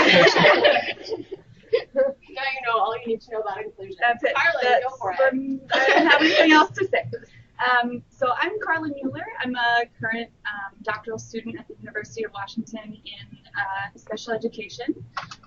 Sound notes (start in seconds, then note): 0.0 all laughing; 8.2 laughter